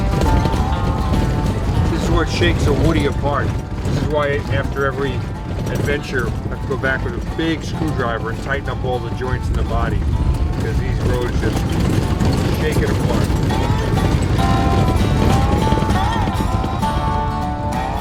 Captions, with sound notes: - This is what shakes a woody apart. This is why after every adventure I have to go back with a big screw driver and tighten up all the joints in the body because these roads just shake it apart. (rattling)